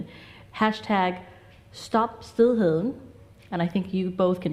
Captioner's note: speaks in foreign language